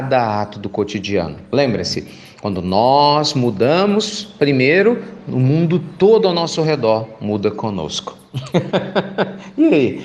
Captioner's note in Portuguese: Risos